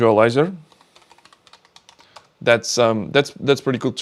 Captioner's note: keyboard clicking